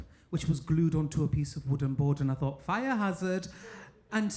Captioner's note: none